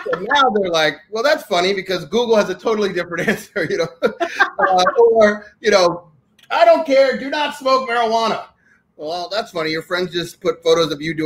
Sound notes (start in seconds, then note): 3.0 laughing